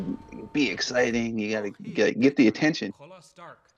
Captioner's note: Iron Man speaks in Lakota; speaking in Lakota